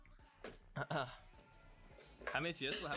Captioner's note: cough cough